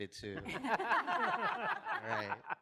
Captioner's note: audience laughs